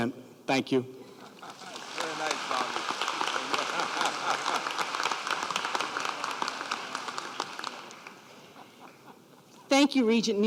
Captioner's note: applause